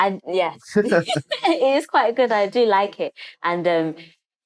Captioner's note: laughter